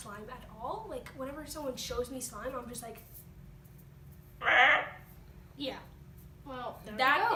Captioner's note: squawking noise